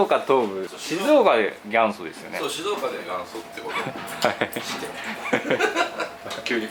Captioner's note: laughs